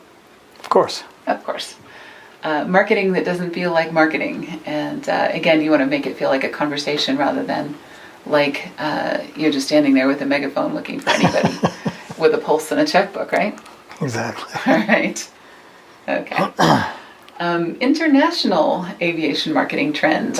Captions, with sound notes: - Of course. - Of course. Marketing that doesn't feel like marketing Again you want to make it feel like a conversation rather than like you're just standing there with a megaphone looking funny (laughs) with a pulse and a checkbook, right? - Exactly (chuckles) - All right. International aviation marketing trends